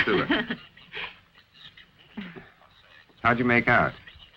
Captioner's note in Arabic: المرأة تضحك